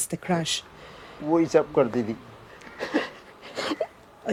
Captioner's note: crying; speaking Gujarati